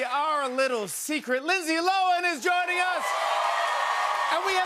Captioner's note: cheers and applause